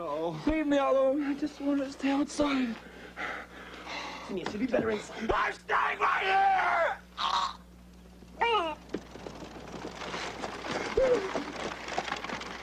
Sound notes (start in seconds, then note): 5.2 yells; 6.9 gasps, cries; 8.2 carriage wheel sounds